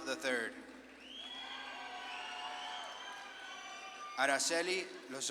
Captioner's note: audience claps and cheers